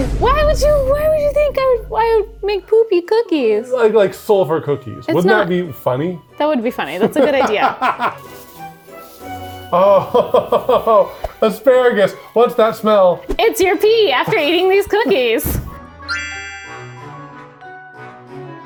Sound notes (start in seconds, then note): 7.1 laughing; 9.7 laughs; 15.9 upbeat music